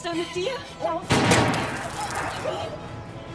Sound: gunshot

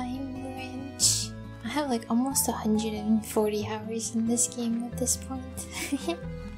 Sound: giggle

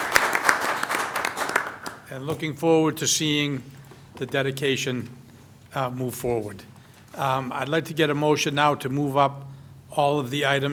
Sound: applause

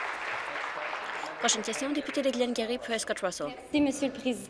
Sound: applause

